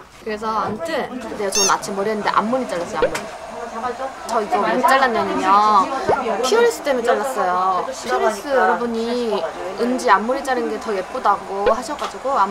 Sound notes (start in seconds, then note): 1.4 chatting